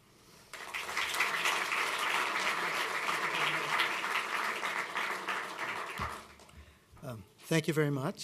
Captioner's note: applause